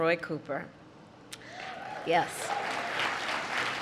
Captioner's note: applause